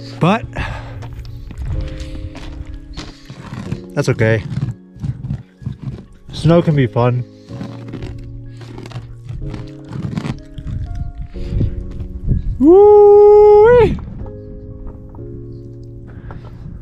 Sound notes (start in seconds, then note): 2.4 footsteps clomping; 5.0 icy snow scratching; 13.9 footsteps clomping